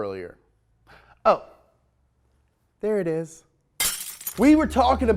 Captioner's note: glass shattering